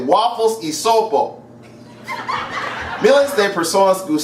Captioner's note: laughter